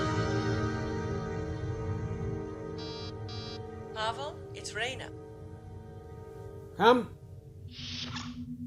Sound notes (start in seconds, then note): 2.8 door buzzer